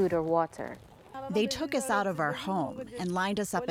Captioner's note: through translator